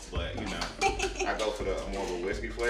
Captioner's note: laughs